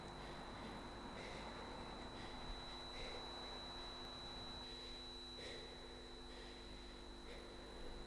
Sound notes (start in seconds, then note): 0.0 high-pitched tone ringing